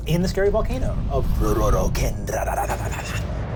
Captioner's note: fantasy language